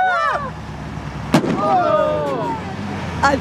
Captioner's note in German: Knall